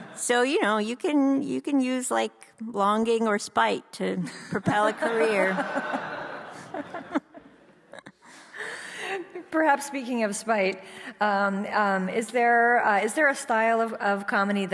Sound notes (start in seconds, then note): 4.6 audience laughs